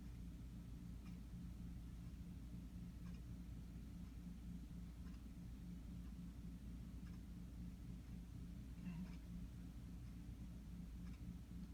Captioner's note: clock ticking